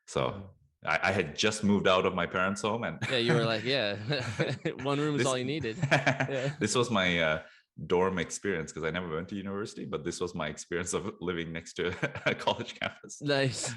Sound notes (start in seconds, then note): 3.0 both laughing; 3.0 laughs; 5.5 laughter continues